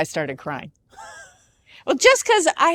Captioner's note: chuckles